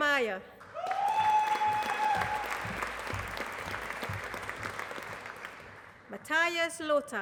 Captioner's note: applause